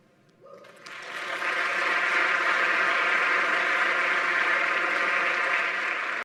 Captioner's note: audience clapping; audience cheering